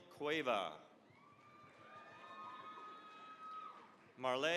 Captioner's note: cheering, applause